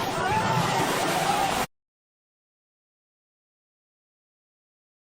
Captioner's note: soldiers shouting